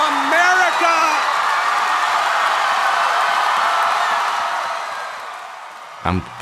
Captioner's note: audience cheering